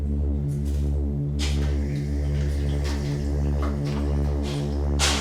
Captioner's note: objects clattering